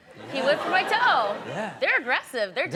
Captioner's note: audience laughs